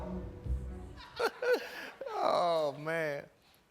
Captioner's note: laughter